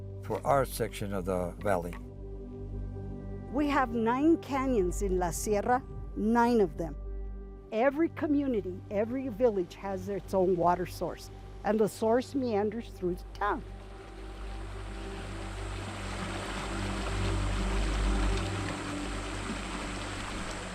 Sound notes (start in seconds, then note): 14.2 intense music; 14.2 water flowing